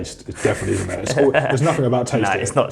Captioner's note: laughs